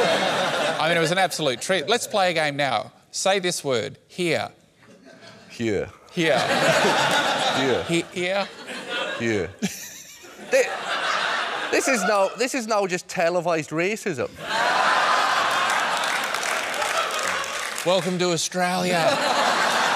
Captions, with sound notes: I mean, it was an absolute treat. Let's play a game now. Say this word 'here'. (STRONG WELSH ACCENT) Here. Here. Here. Here. Here. (LAUGHS) This is now... This is now... just televised racism. (LAUGHTER) Welcome to Australia.